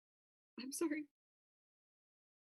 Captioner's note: breaking voice